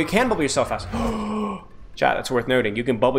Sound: deep Gasp

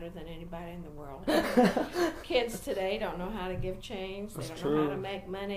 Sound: ruefully

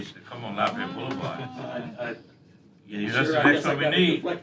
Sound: laughter

